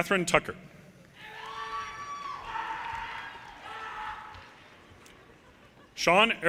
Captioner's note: audience cheers and applause